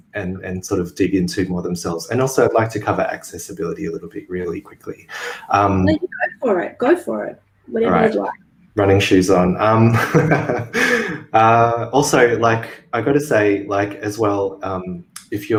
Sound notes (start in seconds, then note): 9.8 laughter